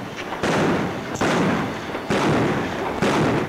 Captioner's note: guns bang